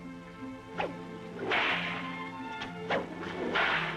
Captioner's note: cracking whip